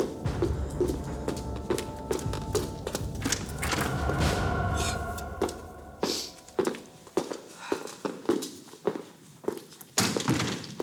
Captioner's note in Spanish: exhala